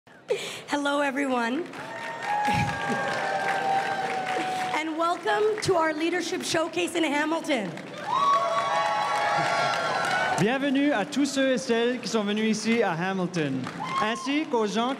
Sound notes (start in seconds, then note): 2.8 crowd cheering and applauding; 5.0 chuckling; 8.1 crowd cheering and applauding